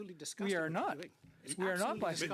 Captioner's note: mixed voices